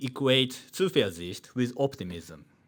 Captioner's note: man speaking in foreign language